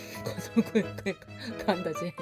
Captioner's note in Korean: 웃음소리